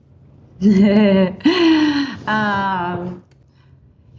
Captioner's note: laughing